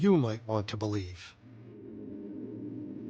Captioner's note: gentle ethereal music; wind blowing